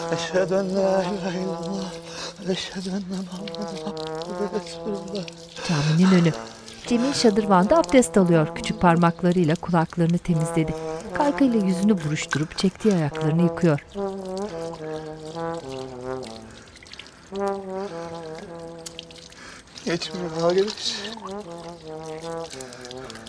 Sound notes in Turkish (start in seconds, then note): 5.6 Nefes sesleri; 10.0 Müzik - Klarnet